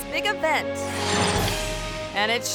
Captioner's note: bicycle whooshing